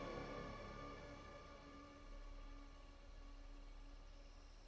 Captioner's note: insects chirping